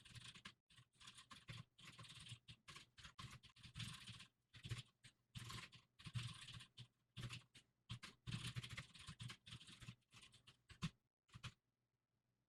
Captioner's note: typing sounds